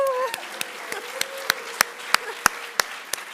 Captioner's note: laughs